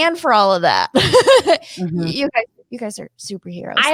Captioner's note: chuckles